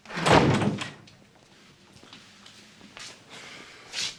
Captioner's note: door thuds; sighs